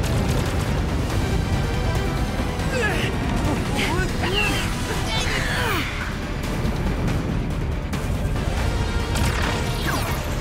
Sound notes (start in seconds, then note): 2.6 all grunting